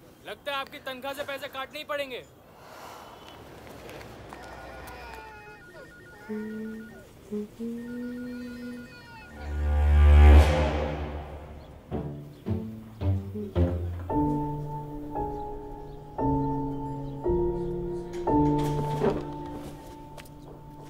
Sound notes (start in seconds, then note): 4.4 Phone ringing; 6.3 Humming